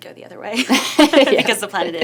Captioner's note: laughs